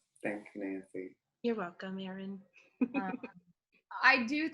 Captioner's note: laughs